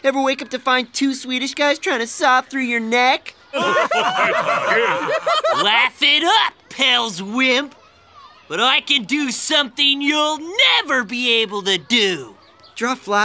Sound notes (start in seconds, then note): 3.5 laughing